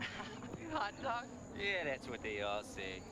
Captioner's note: laughing